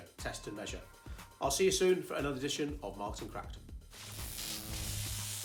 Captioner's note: electric Buzz